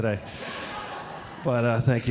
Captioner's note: audience laughing